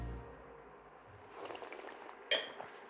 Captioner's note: slurps